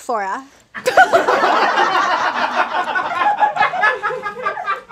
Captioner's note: audience laughs